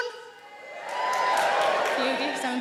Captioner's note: audience cheering